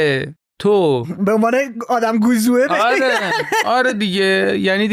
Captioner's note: laughs